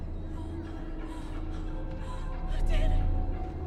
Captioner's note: eerie music; Bryn gasping